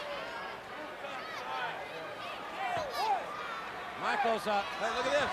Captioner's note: crowd chattering